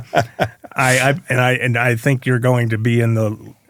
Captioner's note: laughing